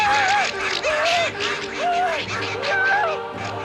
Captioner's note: Desiree screams